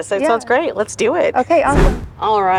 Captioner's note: air whooshing